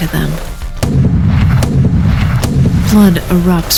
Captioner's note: bang! bang! bang!